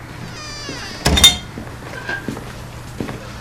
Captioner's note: door opening